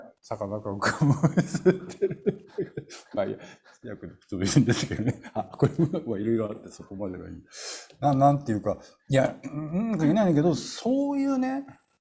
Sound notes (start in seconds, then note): 0.9 laugh